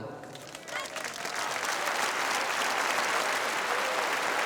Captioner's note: all applauding